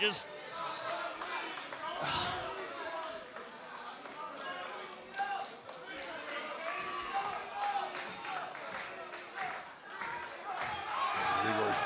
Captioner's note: crowd chatter